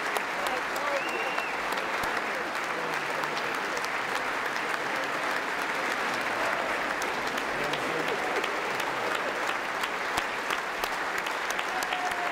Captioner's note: applause